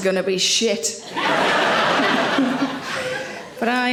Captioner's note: audience laughing